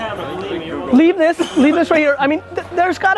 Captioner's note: laughs